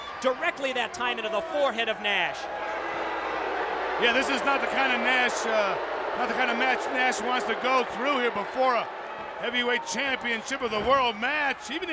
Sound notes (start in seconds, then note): 2.9 audience jeering